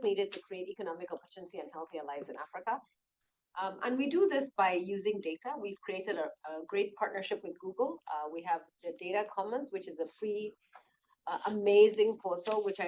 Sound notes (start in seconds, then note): none